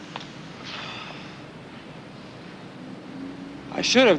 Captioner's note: Casey sighs